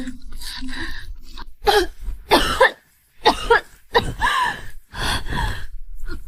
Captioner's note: cough cough cough cough